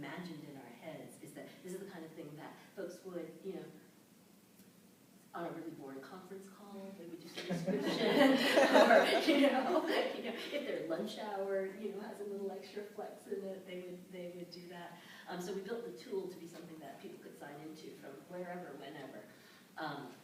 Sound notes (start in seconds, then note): 7.4 laughter